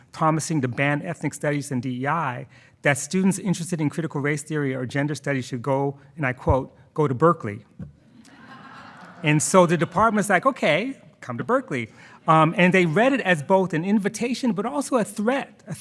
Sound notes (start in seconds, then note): 8.1 attendees laughing